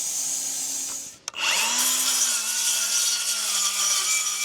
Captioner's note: saw buzzing